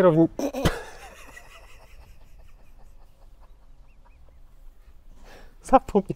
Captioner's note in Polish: śmiech